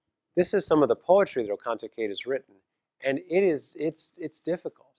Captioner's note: none